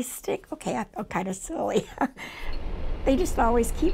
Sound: laughs

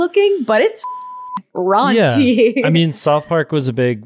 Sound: beep

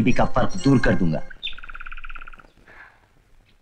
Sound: birds - Chirping

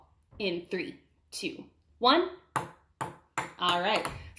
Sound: ball bouncing

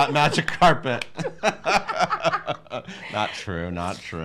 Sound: laughing

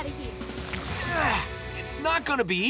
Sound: grunting

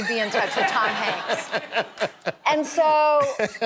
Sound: laughter

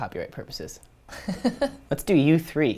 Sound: laugh

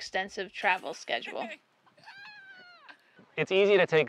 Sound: laughs

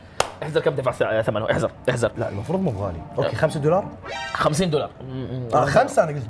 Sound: none

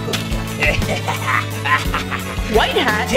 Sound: mischievous laughter

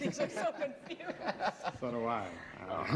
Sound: laughter

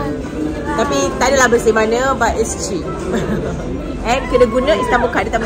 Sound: laugh

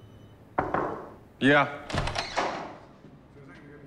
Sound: knock on door

